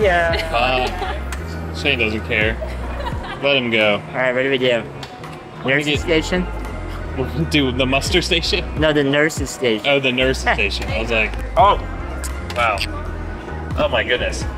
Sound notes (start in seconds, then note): 1.9 laughs; 11.4 laughs